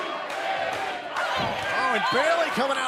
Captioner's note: fans chanting